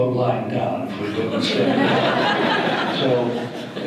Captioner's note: audience laughter